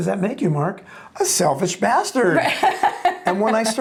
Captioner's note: chuckles